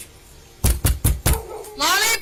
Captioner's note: officer knocks on door